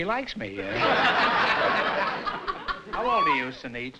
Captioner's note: laughter